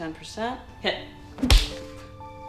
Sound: smack

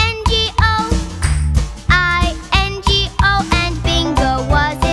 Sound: clap

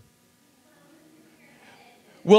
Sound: audience murmurs

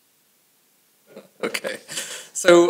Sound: chuckles

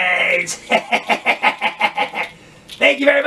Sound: laughs

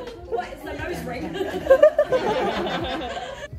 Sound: laughs

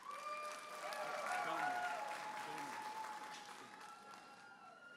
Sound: audience applauding and cheering

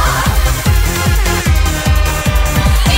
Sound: air horn

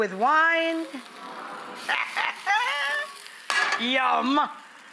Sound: audience awes; laughs

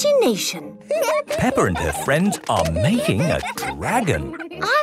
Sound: giggling

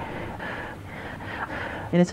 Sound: angry breathing

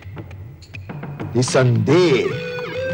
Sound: undoubtedly in Hindi

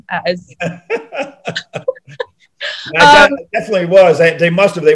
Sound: John laughing

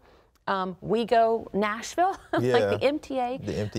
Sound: laughs

